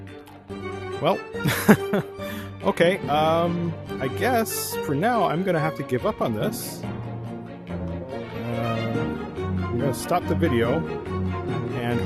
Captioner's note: laughs